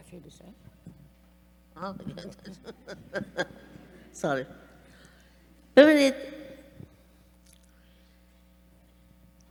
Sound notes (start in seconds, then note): 2.2 chuckle; 5.9 speaking persian